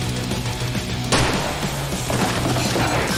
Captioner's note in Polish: beng